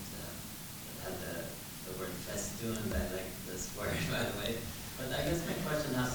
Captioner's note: chuckles